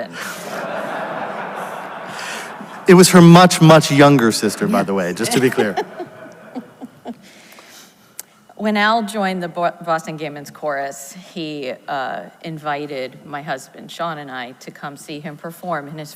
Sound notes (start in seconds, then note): 0.1 audience laughs; 5.1 laughs; 5.5 audience laughs